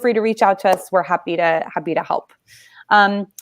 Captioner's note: none